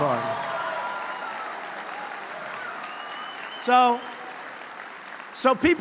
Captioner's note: applause